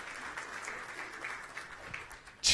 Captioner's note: applause